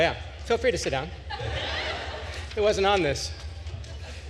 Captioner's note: attendees laughing